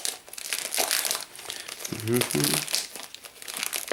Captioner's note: humming